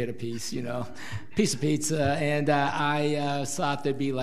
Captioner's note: audience laughs